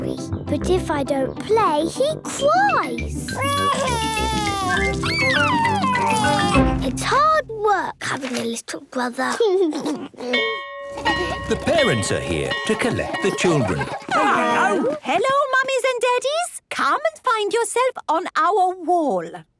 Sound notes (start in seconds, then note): 3.4 crying; 9.6 giggles; 10.5 bell ringing